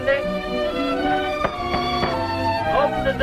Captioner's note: hand knocking on door